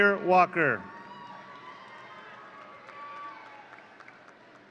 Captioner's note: audience cheering